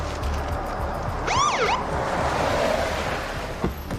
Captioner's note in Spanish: Sonido de la sirena